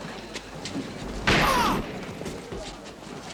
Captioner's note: bob grunts